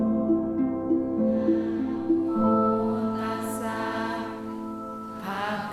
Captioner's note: pali chanting